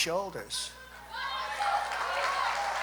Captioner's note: applause